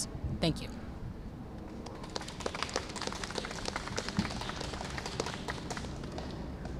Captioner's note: applause